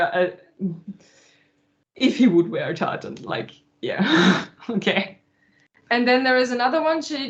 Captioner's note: laughs